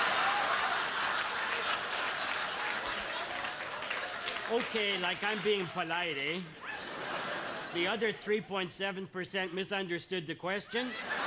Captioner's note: laughter